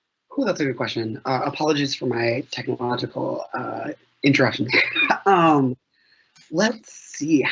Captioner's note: chuckles